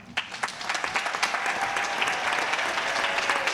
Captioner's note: cheers and applause